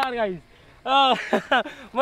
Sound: laughing

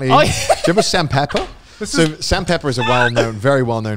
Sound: laughs and claps

